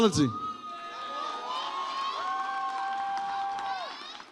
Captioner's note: audience cheers